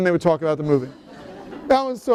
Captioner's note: laughter